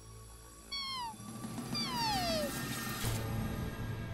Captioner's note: animal call